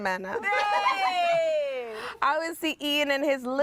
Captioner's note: everyone cheers